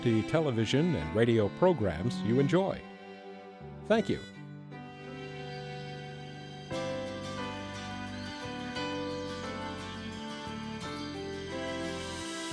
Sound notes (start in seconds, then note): 5.5 birds chirp; 5.5 pleasant upbeat music